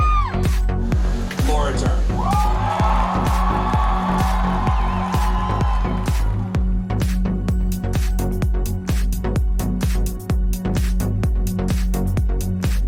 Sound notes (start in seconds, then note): 2.0 crowd cheering